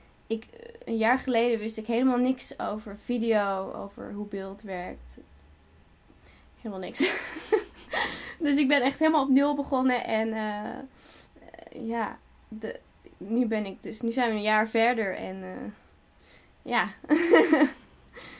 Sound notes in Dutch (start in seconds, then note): 7.0 Interviewer grinnikt; 7.0 lacht; 17.1 lacht; 17.1 Interviewer grinnikt